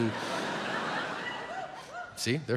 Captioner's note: audience laughs